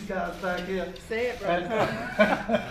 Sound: laughs

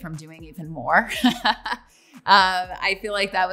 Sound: laughs

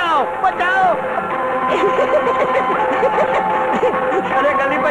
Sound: laughs

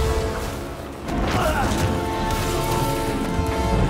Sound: groan

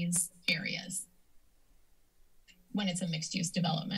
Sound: silence

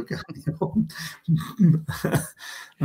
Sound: laughs

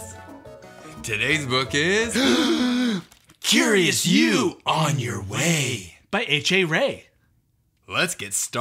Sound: gasp

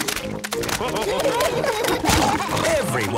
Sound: splashing

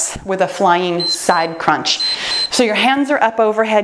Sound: timer beeps

